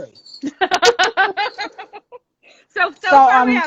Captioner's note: laughing